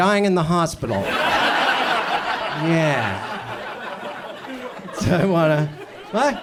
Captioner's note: audience laughs